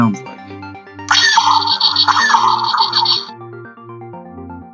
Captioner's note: toy firing sounds